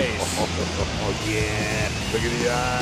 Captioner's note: chuckles